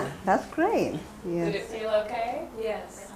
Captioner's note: voiceover